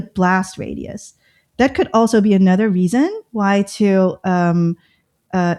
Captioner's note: uh